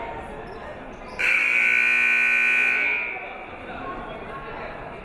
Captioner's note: siren buzzing